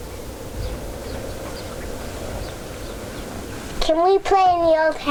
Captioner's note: birds chirping